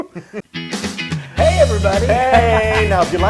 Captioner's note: laugh